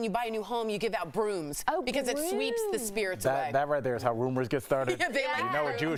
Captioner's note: laughter